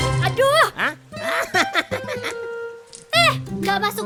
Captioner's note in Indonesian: Tertawa